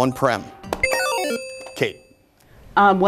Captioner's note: low bell; ding